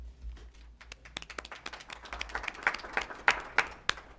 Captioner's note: applause